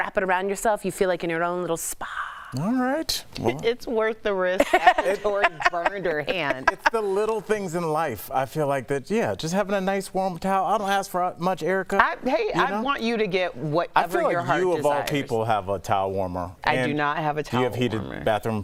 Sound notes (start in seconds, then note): 9.2 laughter